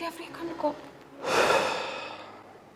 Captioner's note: deep-sigh